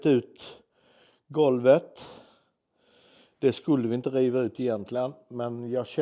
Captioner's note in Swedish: drar efter andan